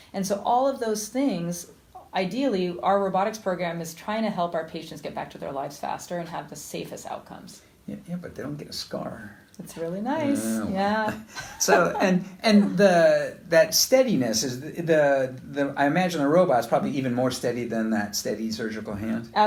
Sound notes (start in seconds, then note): 11.2 laughter